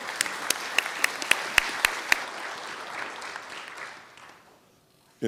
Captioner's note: applause